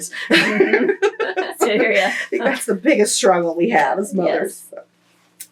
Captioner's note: laughter